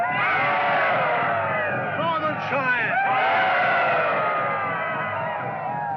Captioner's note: indians hollering; indians hollering